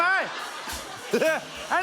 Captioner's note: laughter